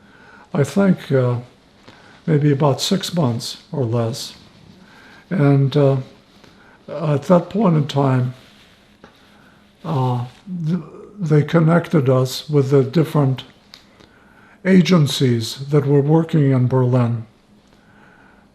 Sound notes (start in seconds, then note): 8.2 wiping nose